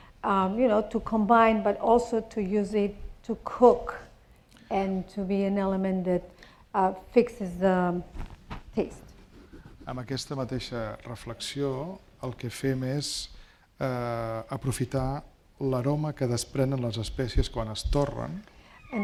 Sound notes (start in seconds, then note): 10.5 speaking spanish